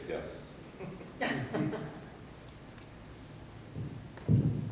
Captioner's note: audience laughing